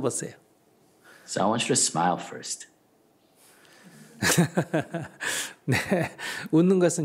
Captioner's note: Sunim laughter